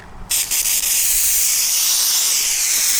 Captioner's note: spraying